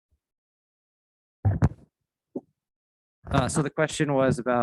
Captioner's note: microphone Interference